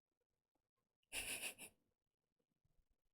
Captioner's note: chuckles